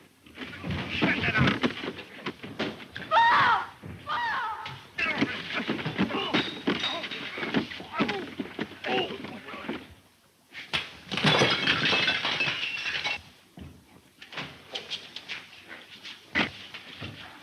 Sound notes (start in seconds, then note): 4.7 bodies scuffling; 6.2 glass breaking; 7.9 bodies scuffling; 10.3 fist strikes; 10.8 body crashing; 11.1 glass breaking; 14.5 bodies scuffling